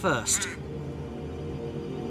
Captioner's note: tense music; raven calling